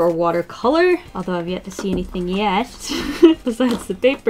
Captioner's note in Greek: Γέλια